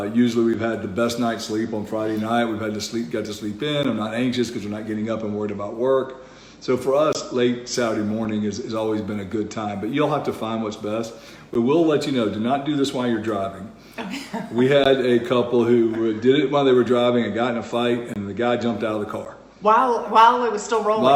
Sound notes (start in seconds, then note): 14.0 laughs